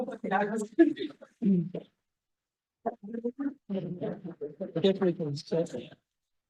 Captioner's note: background conversations